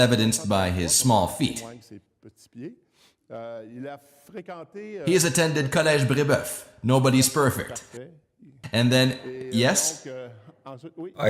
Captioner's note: laughs